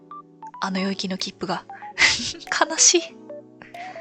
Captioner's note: laughs